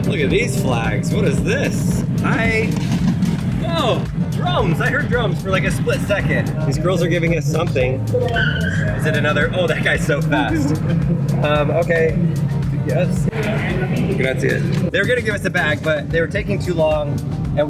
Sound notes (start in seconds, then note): 8.2 wheels skidding; 14.2 speaking in foreign language